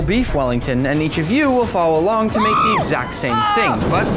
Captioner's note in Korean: 비명